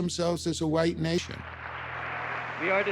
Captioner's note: cheers and applause